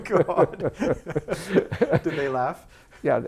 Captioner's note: laughing